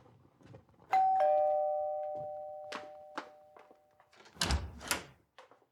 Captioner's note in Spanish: Timbre de la puerta